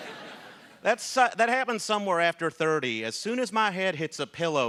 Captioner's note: laughter